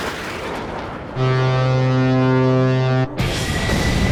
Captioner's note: horn blares; rock music starts